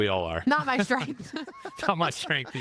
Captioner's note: laughing